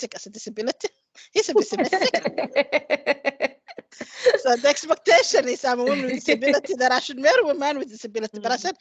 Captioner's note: laughs